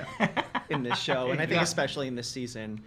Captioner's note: laughing